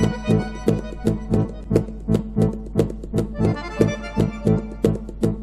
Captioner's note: steps